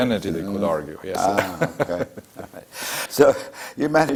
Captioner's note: laugh